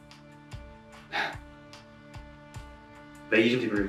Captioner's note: sighs